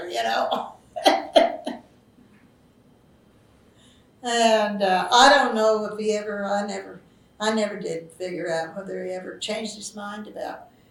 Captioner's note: laughs